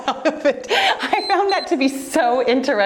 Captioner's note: timer beeps